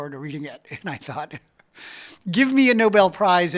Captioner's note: chuckles